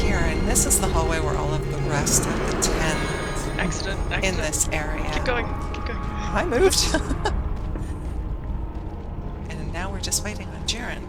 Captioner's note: laughter